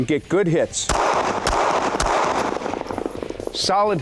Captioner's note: fires gun